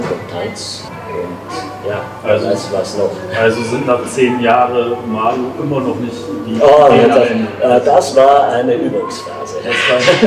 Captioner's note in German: lachen